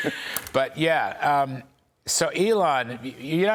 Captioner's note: laughter